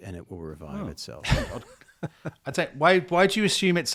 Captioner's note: chuckles